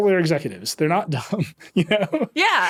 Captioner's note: laughing